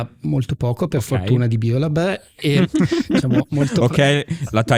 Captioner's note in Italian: laughter